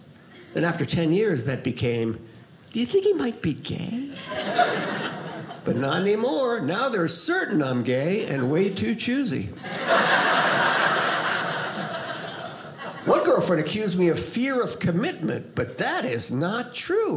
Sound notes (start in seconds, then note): 9.6 audience laughing